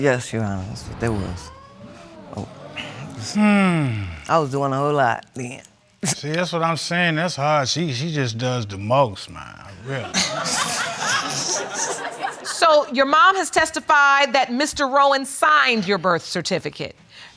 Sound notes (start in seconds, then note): 0.6 audience exclaiming; 10.0 audience laughing